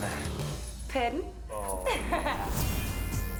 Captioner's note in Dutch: Lacht